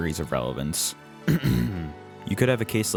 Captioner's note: clears throat